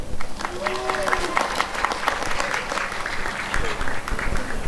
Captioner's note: applause and cheering